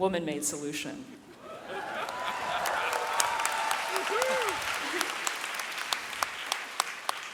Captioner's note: audience laughing, cheering and whooping